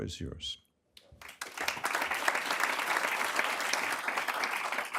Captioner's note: applause